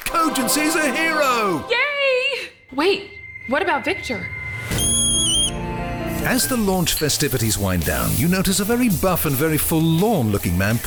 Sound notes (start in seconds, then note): 4.8 monkey screeching